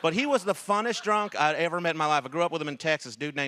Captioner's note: laughter